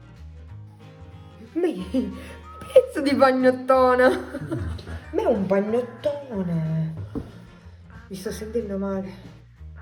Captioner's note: italian profanity